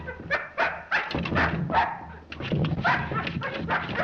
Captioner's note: barking; door rattles